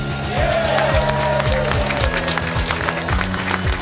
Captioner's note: cheers, applause